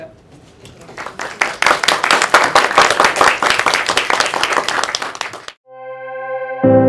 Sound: applause

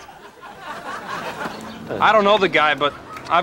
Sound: audience laughs

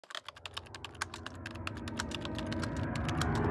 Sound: typing

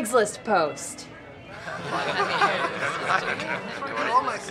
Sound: all giggling and murmuring

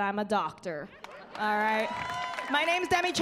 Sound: laughing; cheering

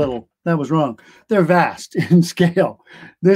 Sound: laughter

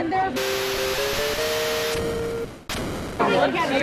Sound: arcade game sound effect

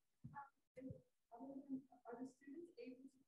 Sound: voice muffling

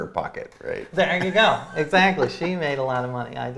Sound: laughs

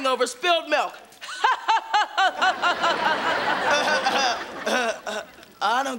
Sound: laughing

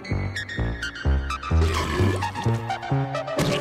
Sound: burps

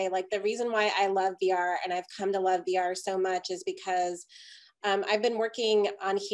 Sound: none

